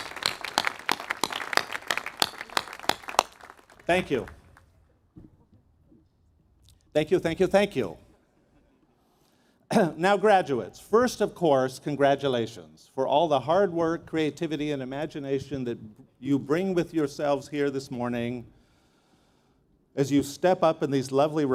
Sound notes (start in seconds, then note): 2.2 applause